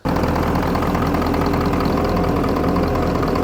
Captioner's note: engine revving